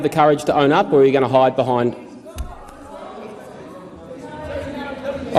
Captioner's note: yelling